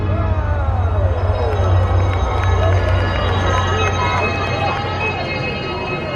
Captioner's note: twinkling music; audience applauding